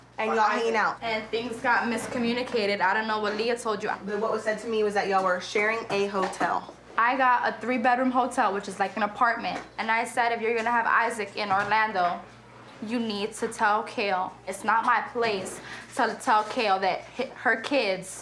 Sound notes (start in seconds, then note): none